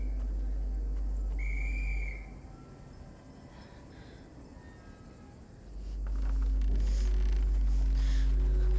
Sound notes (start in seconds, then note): 3.4 heavy breathing